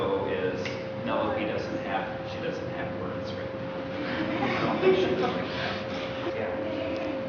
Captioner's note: children laugh